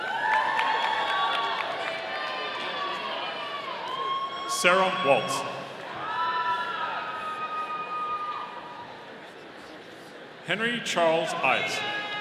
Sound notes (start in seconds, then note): 0.0 audience applauding; 6.1 audience cheering